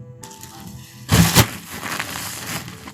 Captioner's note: rustling